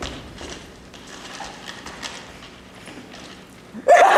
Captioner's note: paper rattling